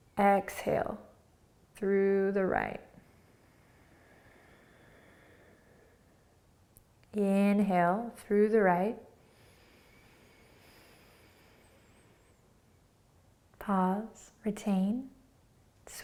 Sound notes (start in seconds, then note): 3.0 exhaling; 9.3 inhaling